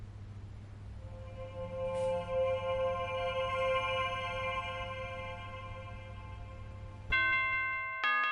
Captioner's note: shimmering